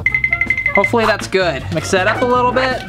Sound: tinkling

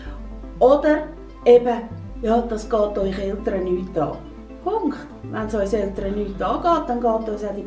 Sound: woman speak Swiss German

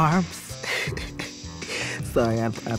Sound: laughs

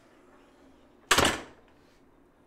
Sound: door slam

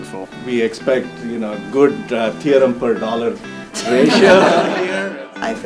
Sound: laughter

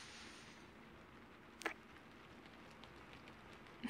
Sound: kiss

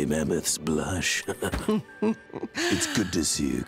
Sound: chuckling

